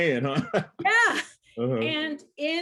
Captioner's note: chuckles